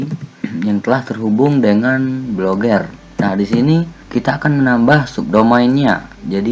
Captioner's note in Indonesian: berdehem